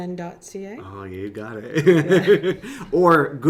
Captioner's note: laughs